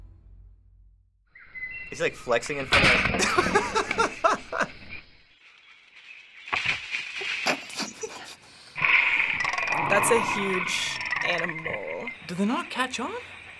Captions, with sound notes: - He's, like, flexing in front of the-- (bang) (laughs) (leaves rustle) - (chortles) (jaguar growling) - That's a huge animal. - Do they not catch on?